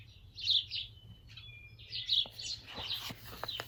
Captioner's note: birds chirping